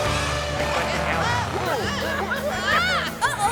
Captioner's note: groaning